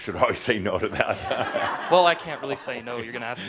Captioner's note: laughter